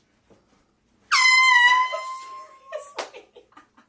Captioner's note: air horn